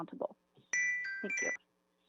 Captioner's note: chime